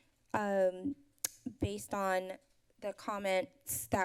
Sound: none

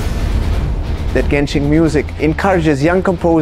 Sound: impact

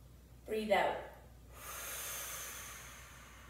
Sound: exhales deeply

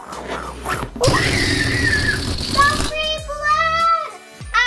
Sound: chomping and chewing; screaming

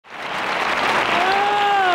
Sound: audience applause

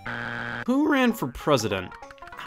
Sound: buzzer beeps

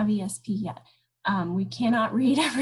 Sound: chuckles

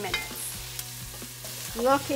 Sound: pan sizzling

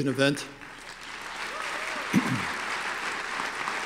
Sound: applause

